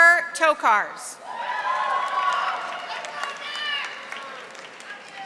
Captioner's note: audience applauding